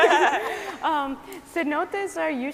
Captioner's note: scientists laughing